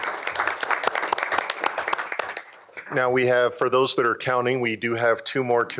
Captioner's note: applause